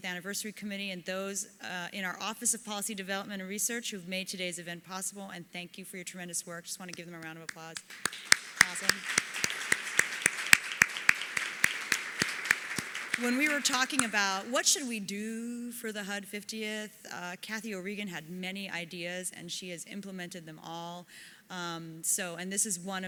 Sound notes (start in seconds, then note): 7.5 applause